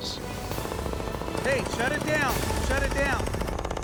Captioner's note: drilling